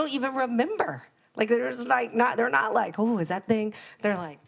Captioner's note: murmurs